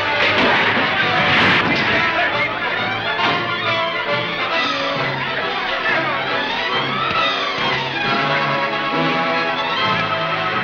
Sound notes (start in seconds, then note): 0.6 truck thuds; 1.9 dramatic music; 1.9 mob shouting